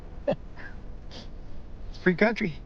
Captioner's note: chuckles